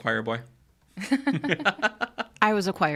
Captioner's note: all laughing